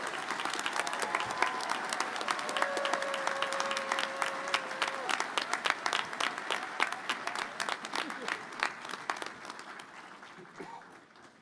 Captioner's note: applause